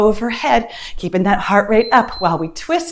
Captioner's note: timer beeps